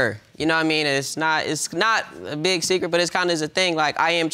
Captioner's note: stammering